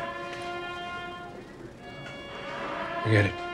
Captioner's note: alarm blares